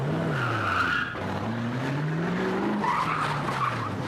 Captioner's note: tires squealing